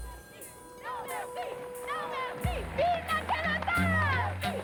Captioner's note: people chanting